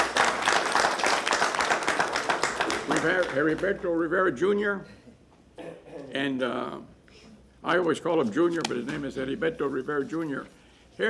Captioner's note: applause